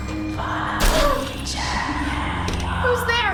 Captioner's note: loud banging